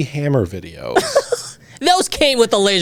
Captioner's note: laughs